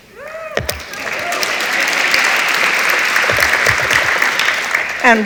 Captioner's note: audience applauds